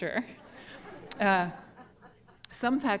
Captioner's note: laughter